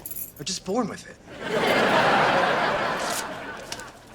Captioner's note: audience laughter